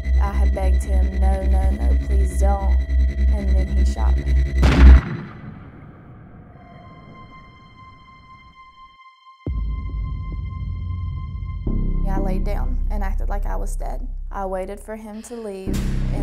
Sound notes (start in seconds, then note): 4.6 gunshot; 6.7 suspenseful music